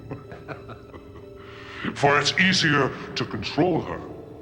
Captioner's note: evil priest chuckling